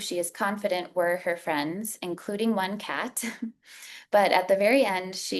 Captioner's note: chuckles